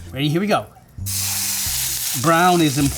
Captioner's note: meat sizzling